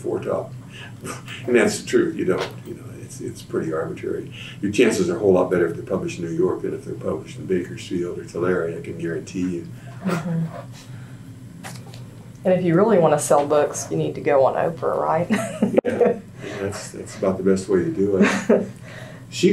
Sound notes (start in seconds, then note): 15.3 laughs